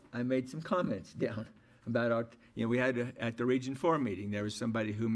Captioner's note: stammers